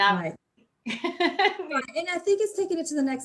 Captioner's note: laughs